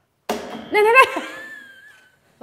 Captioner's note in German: lachend